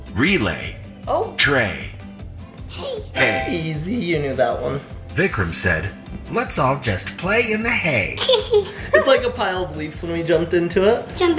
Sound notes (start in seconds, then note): 8.2 giggling